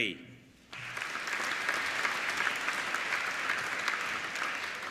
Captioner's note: applauding